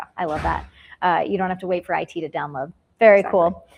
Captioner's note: logo whooshes